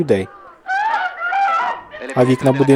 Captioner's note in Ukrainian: кричить